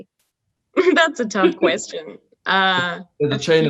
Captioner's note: laughs